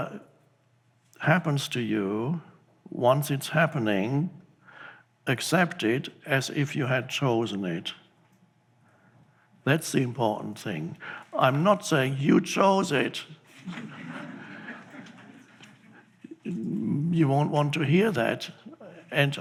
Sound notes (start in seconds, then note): 13.4 audience chuckling